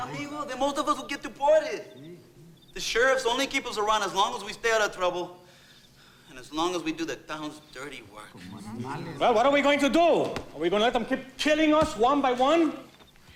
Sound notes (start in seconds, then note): 8.7 overlapping chattering